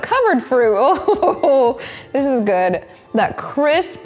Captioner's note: chuckles